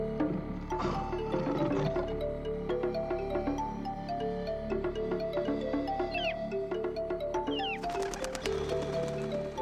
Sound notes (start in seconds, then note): 0.7 lion growling; 5.4 birds chirping